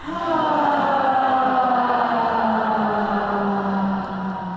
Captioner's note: loud sighing